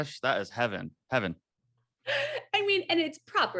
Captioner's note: AJ laughs